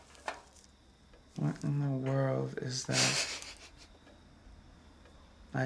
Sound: snickers

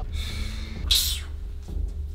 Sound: tchip

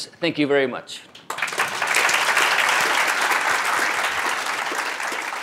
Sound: applause

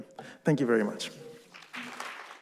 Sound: applause

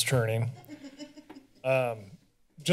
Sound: laughter

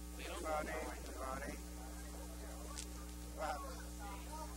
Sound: noisy room with talking

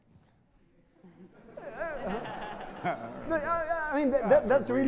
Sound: audience laughter

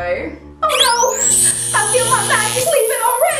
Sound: electricity crackling

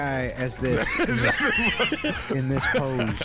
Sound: laughing

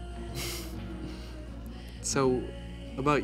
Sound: Theo chuckles

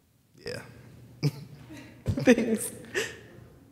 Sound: laughter

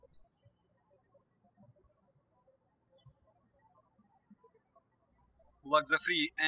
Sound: birds chirping

